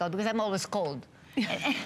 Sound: laughter

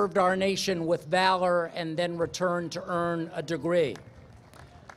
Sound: applause

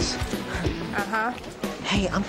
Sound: sighs

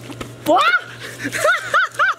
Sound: screams; laughs

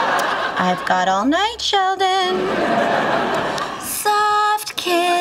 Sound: audience laughing; audience laughing

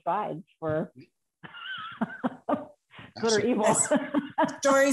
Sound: laughter

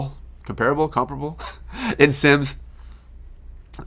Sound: laughs

